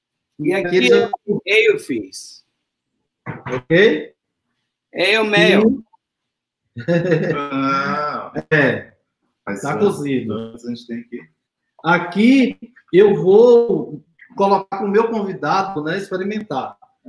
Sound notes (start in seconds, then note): 0.2 speaks portuguese